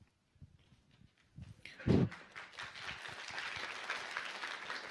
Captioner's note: applause